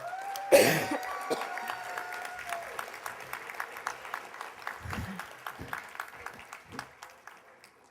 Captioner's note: applause